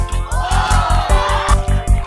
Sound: crowd

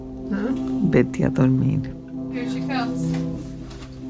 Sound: Spanish

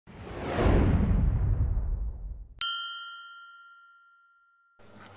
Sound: whoosh; ding

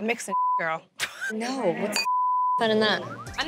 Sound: beep

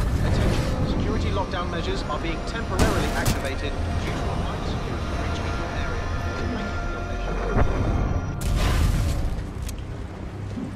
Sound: radio

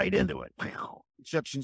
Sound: Bill makes a fun explosion sound

